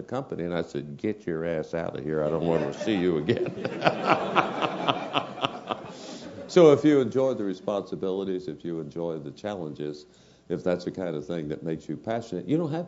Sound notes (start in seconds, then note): 2.4 laugh